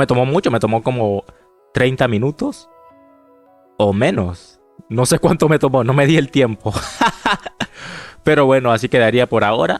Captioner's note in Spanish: risas